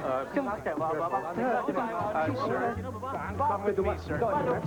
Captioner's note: yelling in Cantonese